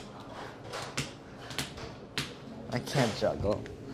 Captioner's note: lemons thudding